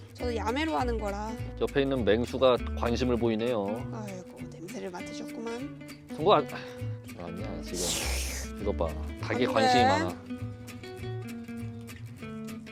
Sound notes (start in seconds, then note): 7.7 sniff sniff